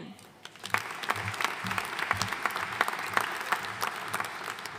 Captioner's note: audience applauding